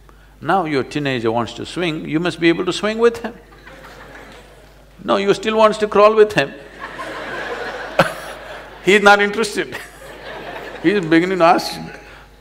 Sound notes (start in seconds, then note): 6.6 laughter; 9.8 laughs